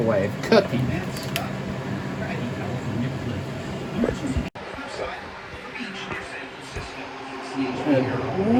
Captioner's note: "21Alive News at 5" plays in background